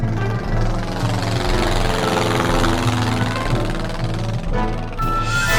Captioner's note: sound of airplane flying